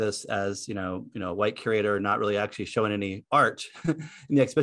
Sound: laughs

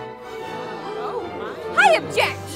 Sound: crowd murmuring

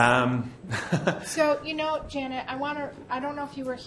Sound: voiceover

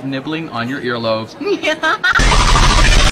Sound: totally normal laugh

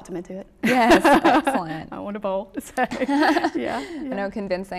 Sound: laughs

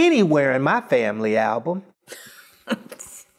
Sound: chuckle

